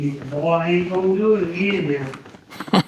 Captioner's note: laughing